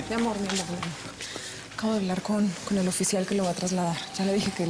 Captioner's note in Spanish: none